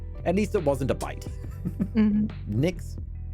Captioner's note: laughter